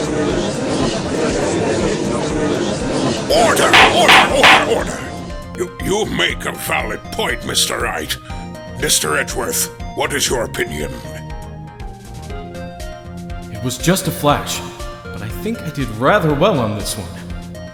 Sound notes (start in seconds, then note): 0.1 gallery chattering; 3.4 gavel slams!